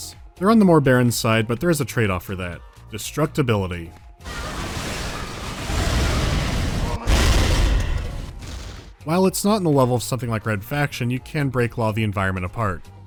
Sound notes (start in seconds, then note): 4.2 shooting, grunts screaming and explosions; 7.0 tardy boosh